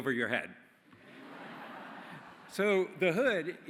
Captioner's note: laughter